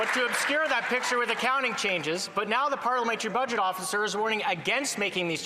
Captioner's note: some Applause